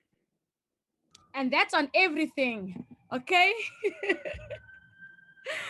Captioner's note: laughs